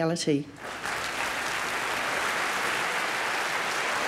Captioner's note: applause